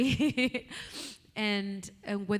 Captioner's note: chuckles